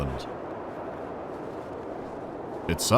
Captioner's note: howling of wind